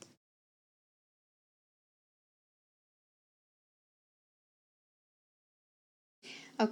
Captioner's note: silent credits